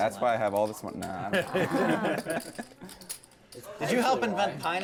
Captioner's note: laugh